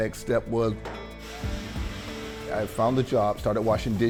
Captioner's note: water spraying